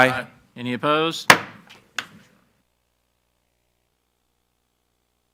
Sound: gavel clacks

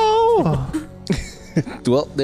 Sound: laughs

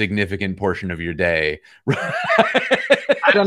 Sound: laughter

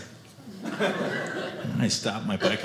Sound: audience laughing

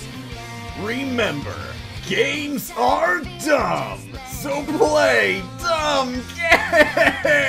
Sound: while Chuckling

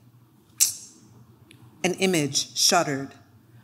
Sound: clicks

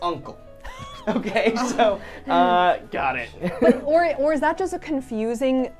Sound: all laughing

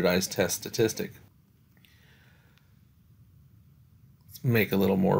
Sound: no Speech Detected

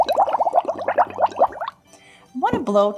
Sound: bubbling sounds

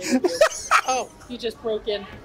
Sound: laughs

